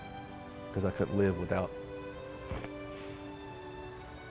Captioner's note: sniffles; gentle music